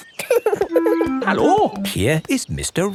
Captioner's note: laughing